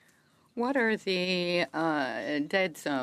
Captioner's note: speaking French